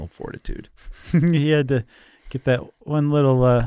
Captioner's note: laughs